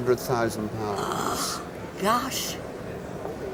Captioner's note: gasps